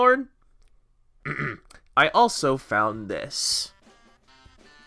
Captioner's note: clears throat